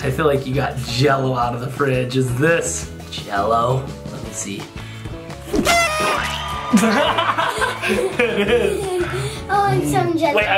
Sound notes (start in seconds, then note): 5.6 horn toots; 6.1 laughs